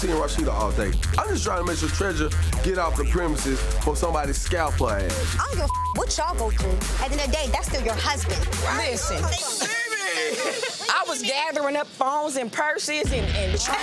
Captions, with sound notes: I'm Team Rasheeda all day. I'm just trying to make sure Tresure get off the premises before somebody scalp her ***. - I don't give a (beep) what y'all go through. At the end of the day, that's still your husband. - Right. - Listen. - Mimi! - I was gathering up phones and purses and-